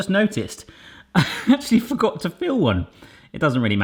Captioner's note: laughs